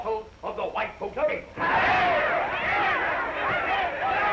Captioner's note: all cheering